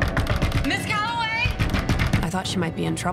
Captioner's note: knocks